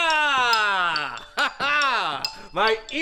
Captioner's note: laughs